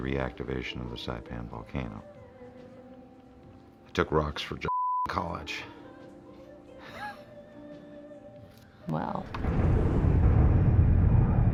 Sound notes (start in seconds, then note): 6.8 laughs